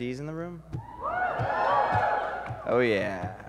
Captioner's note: cheering